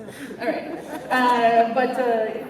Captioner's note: laughter